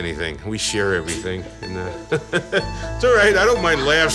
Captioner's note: laughing